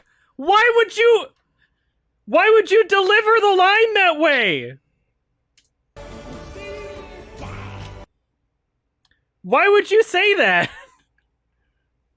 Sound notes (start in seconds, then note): 0.0 mocking; 10.6 chuckles